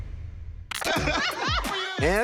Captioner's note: laughter